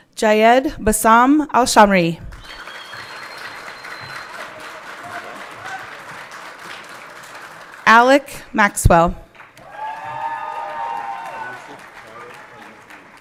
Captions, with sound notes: Jayed Basam Alshammari. (everyone clapping) Alec Maxwell. (everyone cheering)